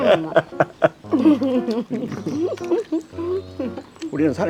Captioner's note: both laughing